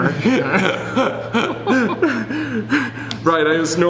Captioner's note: laughing